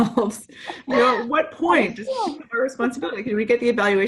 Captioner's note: electronic stuttering